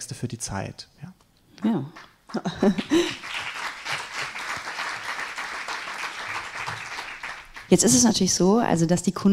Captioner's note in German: applaus